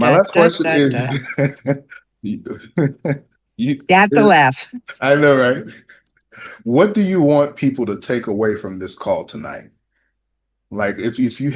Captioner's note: laughter